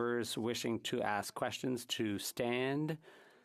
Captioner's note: speaking French